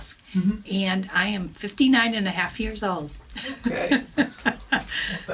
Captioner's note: laughs